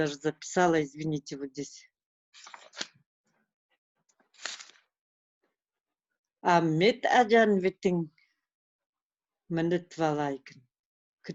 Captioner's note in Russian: говорит на родном языке